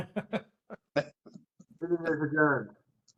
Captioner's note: attendees laughing